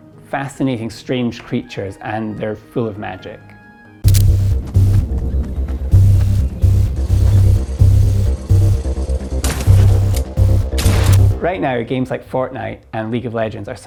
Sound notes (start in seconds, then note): 4.0 intense electronic music; 9.4 guns shooting